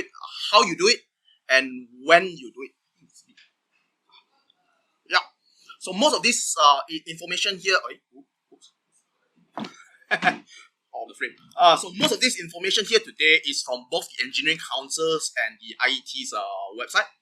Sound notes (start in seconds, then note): 10.1 laughter as speaker is out of frame